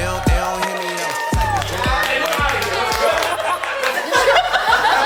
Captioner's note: crowd cheers; crowd laughs